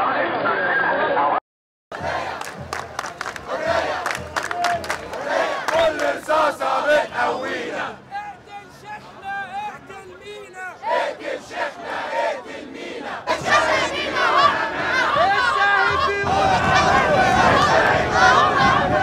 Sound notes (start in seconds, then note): 2.0 chants; 10.3 chants